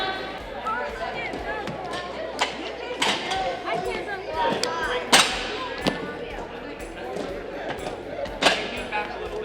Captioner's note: running and gym sounds